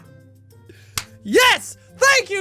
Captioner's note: claps